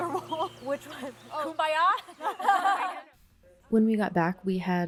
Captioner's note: laughs